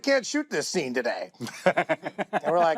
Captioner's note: laughter